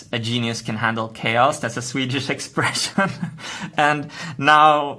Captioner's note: chuckle